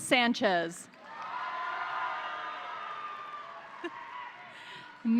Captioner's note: crowd applauding; crowd cheering